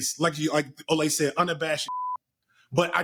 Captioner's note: beep